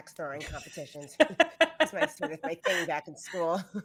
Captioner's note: laughs